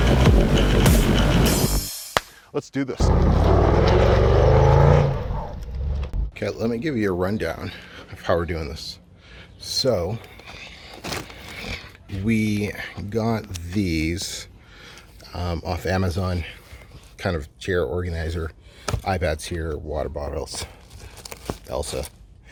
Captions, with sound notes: Let's do this. (car engine roars) Okay. Let me give you a rundown of how we're doing this. So we got these off Amazon kind of chair, organizer, iPads here, water bottles also.